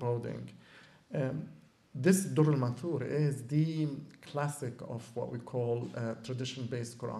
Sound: non-english

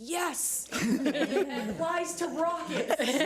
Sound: audience laughs

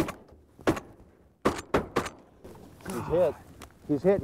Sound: gunshots

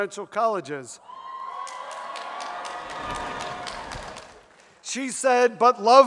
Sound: audience cheers

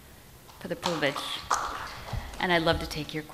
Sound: audience applauds

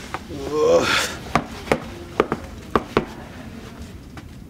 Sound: taps feet

